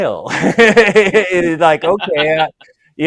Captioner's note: laughs